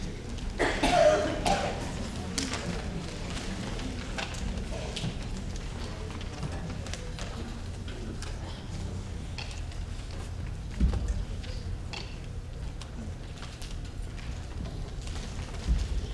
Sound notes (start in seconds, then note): 0.5 coughing